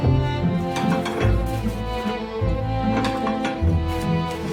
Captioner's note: lighthearted violin music; bowls clanking